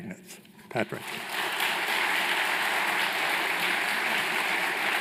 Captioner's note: applause